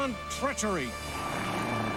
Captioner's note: growls